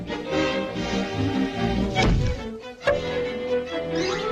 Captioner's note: energetic music; hatchet thudding